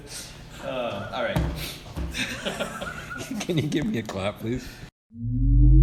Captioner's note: laugh